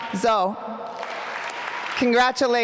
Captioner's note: applause